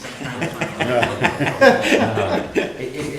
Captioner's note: laughter